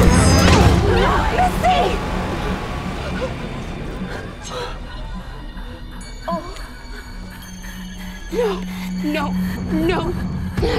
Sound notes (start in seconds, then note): 0.0 all clamoring; 4.0 Misty gasping